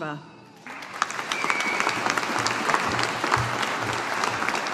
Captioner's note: audience applauding